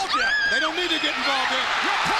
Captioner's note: Kimberly screams